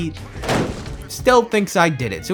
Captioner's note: kicks table